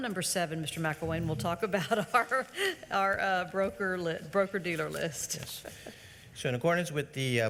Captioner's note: laughs